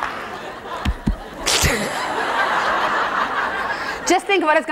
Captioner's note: laughing; tap tap